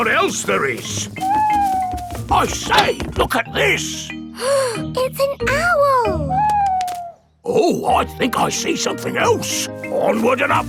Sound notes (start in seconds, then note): 1.2 owl hooting; 4.4 gasps